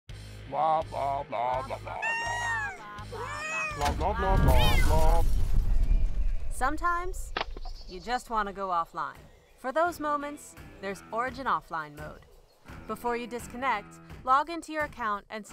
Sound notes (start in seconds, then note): 1.8 loud yammering